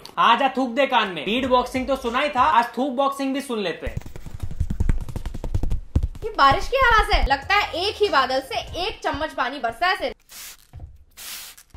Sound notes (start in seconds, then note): 3.9 some tapping sounds